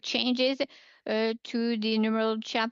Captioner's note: speaking in French